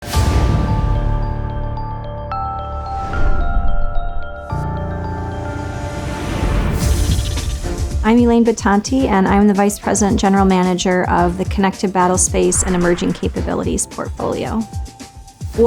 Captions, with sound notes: (air whooshing) (tense music) (epic music) - I'm Elaine Bitonti, and I'm the vice president, general manager of the Connected Battle Space and Emerging Capabilities portfolio.